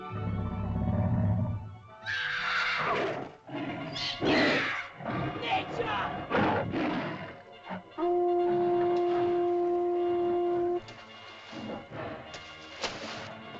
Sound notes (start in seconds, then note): 0.0 dinosaur growls; 2.1 girl screams; 2.8 dinosaur snarls; 3.9 dinosaur growls & snarls; 3.9 shouting in caveman language; 7.9 shell toots; 10.9 suspenseful music; 10.9 water splashes; 13.3 dinosaur snarls; 13.3 suspenseful music